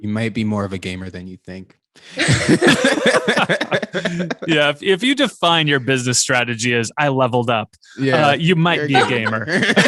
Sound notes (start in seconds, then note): 2.1 all laughing; 8.8 all laughing